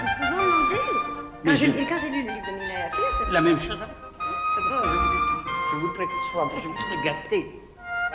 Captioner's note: speaking french